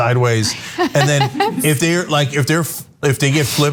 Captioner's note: laugh